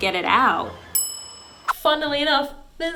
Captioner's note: ding